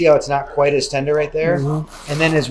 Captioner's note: hums